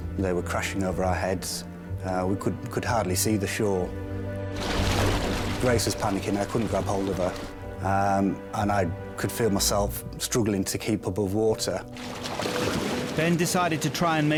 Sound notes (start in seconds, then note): 4.5 water gurgling; 11.9 water whooshing; 12.0 water gurgling